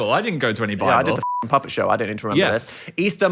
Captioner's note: beep